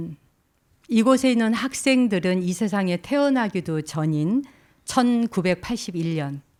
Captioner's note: speaking in Korean